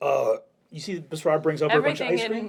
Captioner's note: normal voice